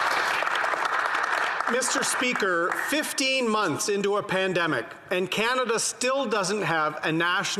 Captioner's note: some Applause